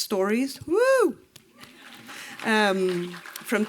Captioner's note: applause